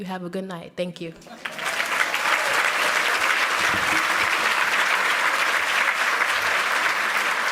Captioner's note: applause